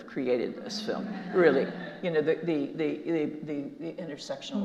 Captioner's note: audience laughing